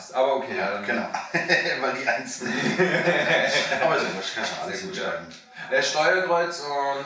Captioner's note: laughing